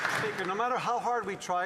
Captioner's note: some Applause